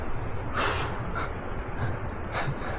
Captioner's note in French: Soupir